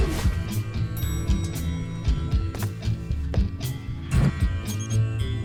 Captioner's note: music; elevator dings